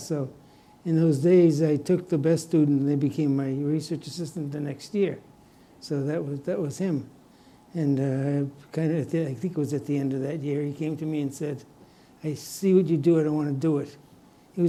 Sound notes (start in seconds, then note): none